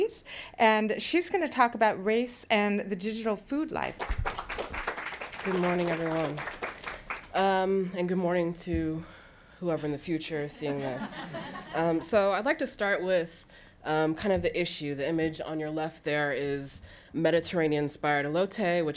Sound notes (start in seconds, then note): 4.0 applause